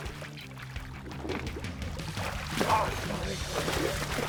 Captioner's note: fish splashing